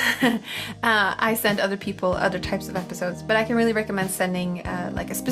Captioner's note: laughs